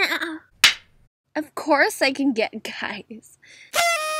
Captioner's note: laughs